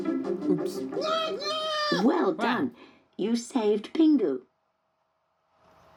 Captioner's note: pingu nooting